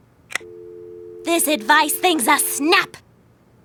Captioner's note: dial tone humming